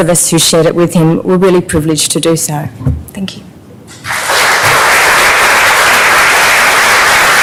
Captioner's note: applause